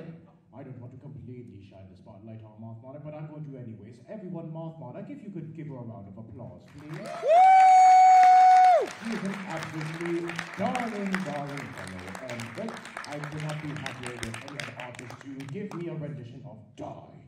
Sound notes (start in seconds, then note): 6.9 audience claps and cheers